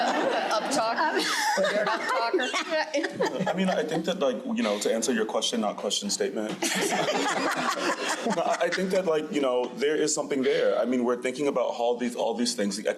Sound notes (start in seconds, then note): 0.0 crowd laughing; 6.6 crowd laughing